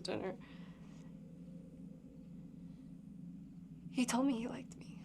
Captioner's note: crickets chirping; tense music